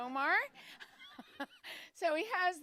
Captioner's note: laughter